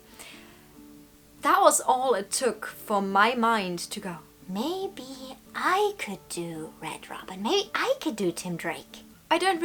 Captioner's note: gremlin voice